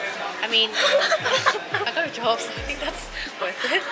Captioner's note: laughs